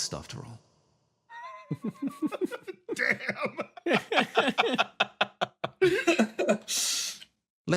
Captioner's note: laughs